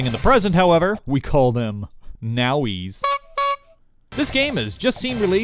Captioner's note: honk honk